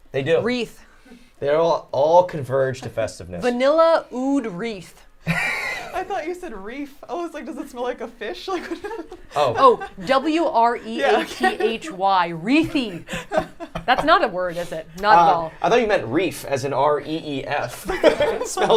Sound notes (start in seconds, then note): 5.3 laughs; 12.7 group laughs